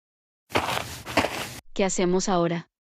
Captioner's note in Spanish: FX - Footsteps - On Multiple Dirt - Walk